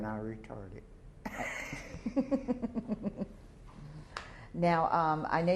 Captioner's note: laughter